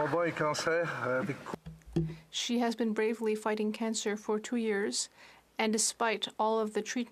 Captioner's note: applause